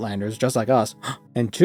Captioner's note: gasp